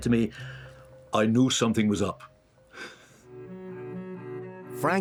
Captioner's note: chuckles